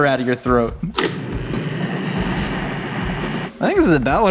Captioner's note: blender grinding